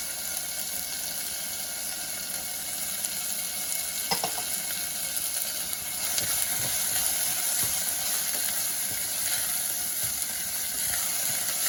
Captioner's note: cooking sound